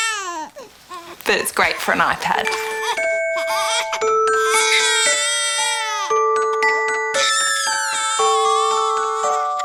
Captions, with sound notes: ..but it's great for an iPad. (Baby continues crying)